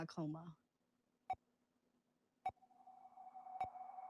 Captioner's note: beeping